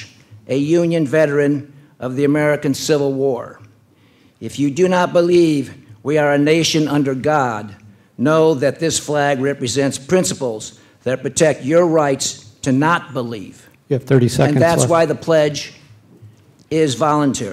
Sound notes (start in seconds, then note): none